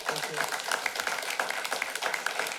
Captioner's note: applause